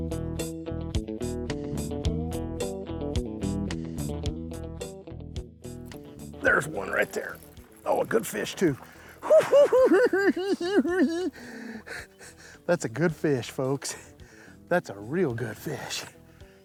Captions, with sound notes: - There's one right there. Oh, a good fish too. [giggling] That's a good fish, folks. That's a real good fish.